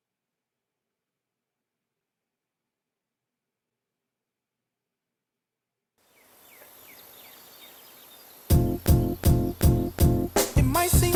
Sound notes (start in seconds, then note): 6.0 birds chirping; 8.5 lively music